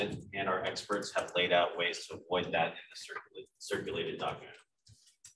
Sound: speaking away from mic

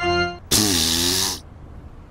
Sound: blows a raspberry

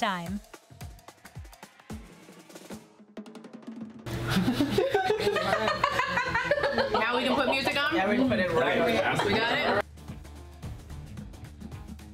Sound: laughter and Cheering

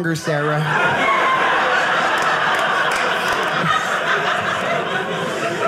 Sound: audience laughing

